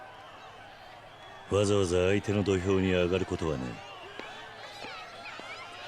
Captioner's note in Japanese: 大歓声